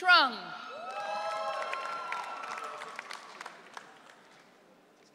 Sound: audience cheering

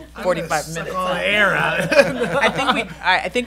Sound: laughing

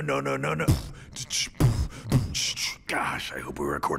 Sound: beatbox sounds

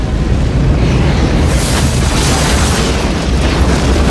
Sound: crash

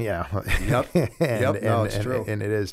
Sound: laughter

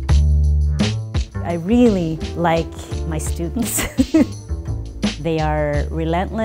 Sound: laughing

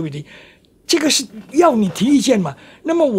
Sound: 英语

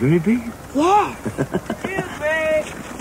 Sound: evil laughter

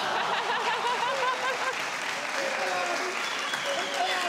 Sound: audience cheers

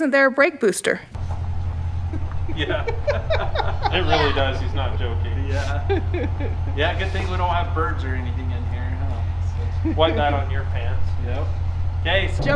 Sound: laughing

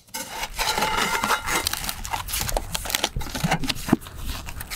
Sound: metal scraping

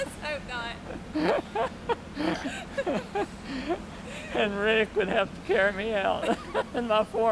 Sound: laughter

